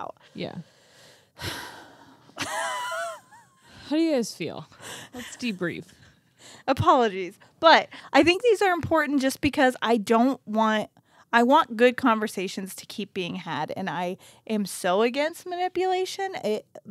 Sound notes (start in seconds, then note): 1.3 sighs; 2.3 chuckles; 4.9 chuckles